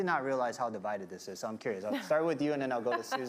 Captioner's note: chuckling